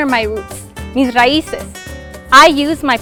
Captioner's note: speaking foreign language